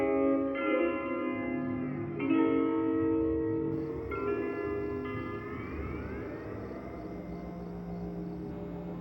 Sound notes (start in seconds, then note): 1.7 insects chirping